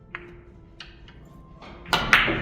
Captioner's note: clapping with chalk